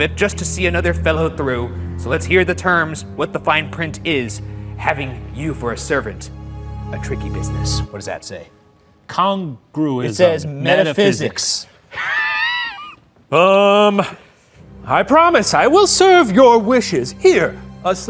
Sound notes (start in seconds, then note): 11.9 laughs